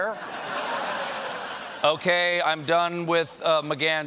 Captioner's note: laughter